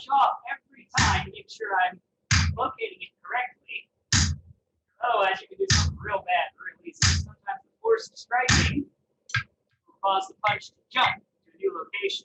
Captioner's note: hammering